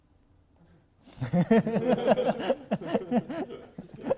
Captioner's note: laughs